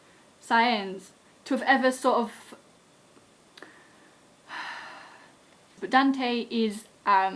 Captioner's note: sigh